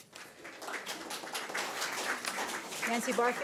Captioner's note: audience applauds